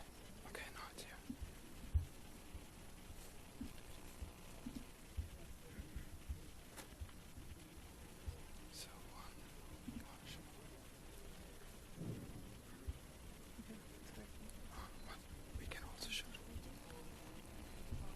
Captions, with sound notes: Okay now it's here. (whispering)